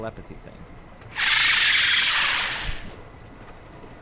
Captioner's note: Loud bahro screech